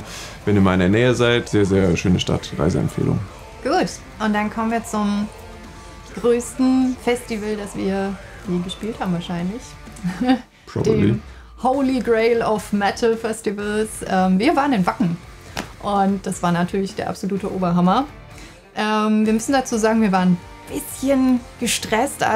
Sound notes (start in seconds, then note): 9.9 chuckles